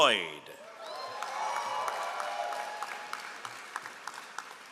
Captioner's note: all applauding